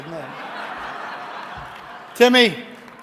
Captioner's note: audience laughing